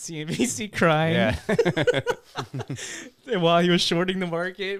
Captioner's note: laughing